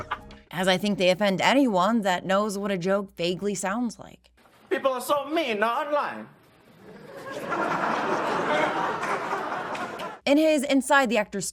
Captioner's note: stilted laughter